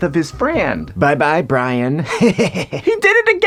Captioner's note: laughs menacingly